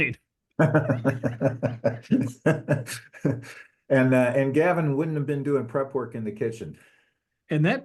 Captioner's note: laugh